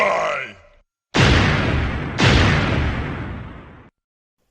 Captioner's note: lightning